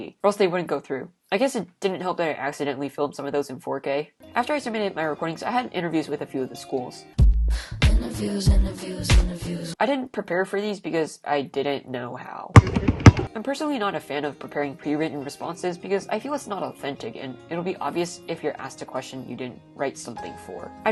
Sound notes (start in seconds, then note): 12.5 basketballs bouncing